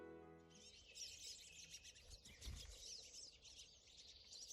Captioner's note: bird chirping